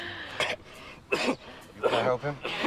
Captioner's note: coughs